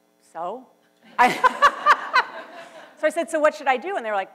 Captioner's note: laughs